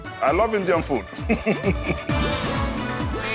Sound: laughing

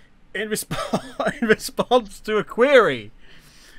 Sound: laughing

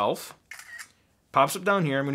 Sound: camera snapping

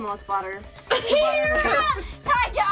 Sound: shouts

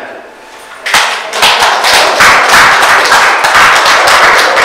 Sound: audience applauds

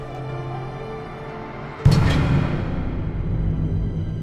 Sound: door slamming

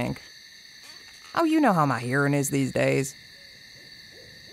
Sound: owl hoot

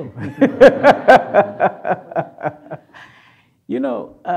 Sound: Strive laughs

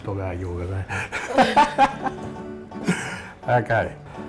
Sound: laughing

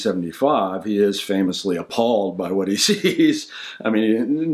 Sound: laughing

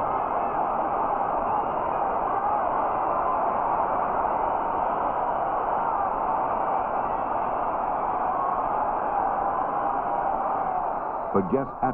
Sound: cheering

